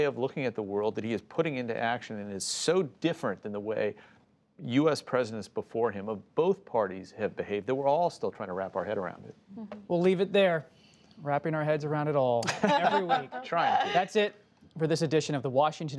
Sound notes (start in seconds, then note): 12.4 laughter